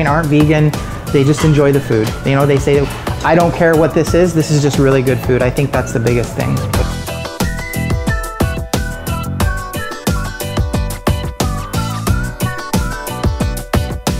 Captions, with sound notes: aren't vegan, they just enjoy the food. They say, "I don't care what this is, this is just "really good food." I think that's the biggest thing. (upbeat music) (whistling)